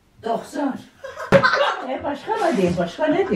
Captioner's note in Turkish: Gülüşmeler